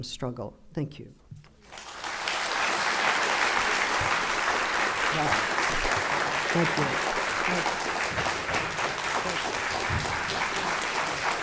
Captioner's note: applause